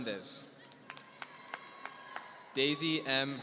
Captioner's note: applause